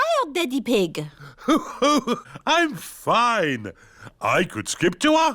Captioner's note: laughs